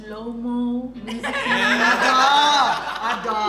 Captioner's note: everyone laughs